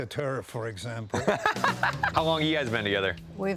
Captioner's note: laughs